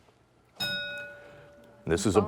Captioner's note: ding